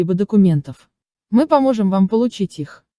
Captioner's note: in English only